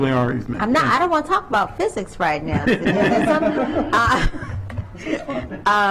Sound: laughter

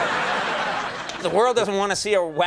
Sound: laughter

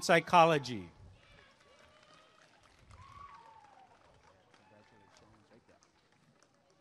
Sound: applause and cheering

